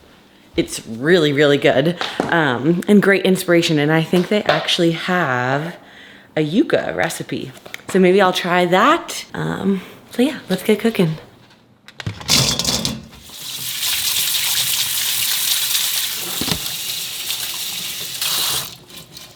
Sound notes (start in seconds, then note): 11.9 tomatoes clatters; 13.8 water splashes